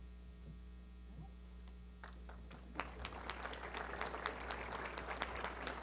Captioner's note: applause